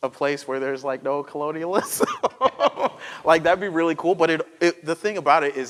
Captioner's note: laughter